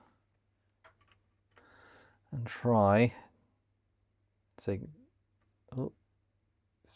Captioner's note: typing